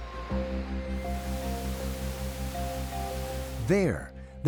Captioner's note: waves crashing